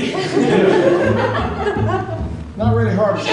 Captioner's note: laughter